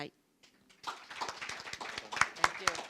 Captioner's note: audience applauding